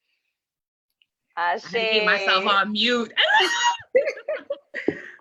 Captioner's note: no sound; squeals in delight; all laugh excitedly